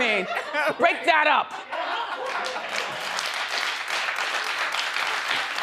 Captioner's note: audience applauds